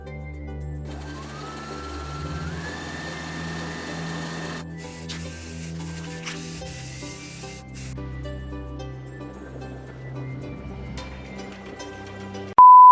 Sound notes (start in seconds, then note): 0.0 soft music; 0.0 spray paint spraying; 0.8 sewing machine sewing; 2.2 spray paint spraying; 9.4 blower wind gushing; 12.6 beeping sound